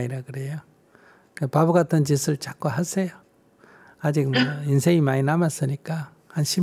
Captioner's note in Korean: 질문자 웃음